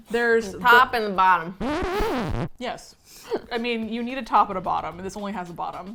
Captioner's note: record scratch